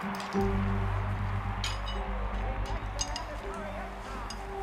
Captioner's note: people cheering on tv